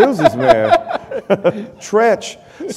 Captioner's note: laughter